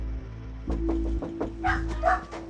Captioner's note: knock on door